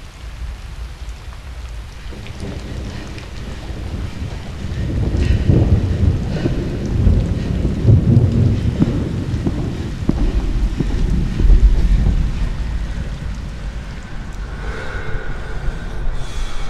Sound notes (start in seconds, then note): 2.2 thunder rumbling; 4.9 heavy breathing